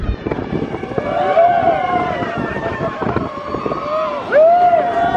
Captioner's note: riders cheering